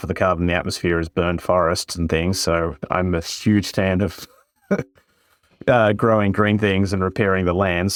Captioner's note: laugh